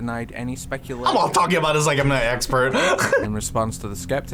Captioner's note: laughs